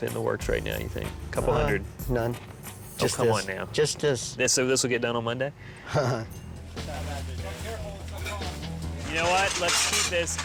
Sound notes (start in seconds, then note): 5.8 chuckles; 6.8 workers chattering